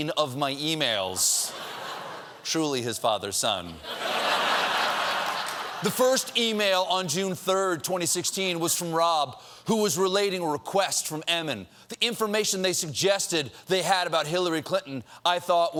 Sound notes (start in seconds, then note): 3.6 laughter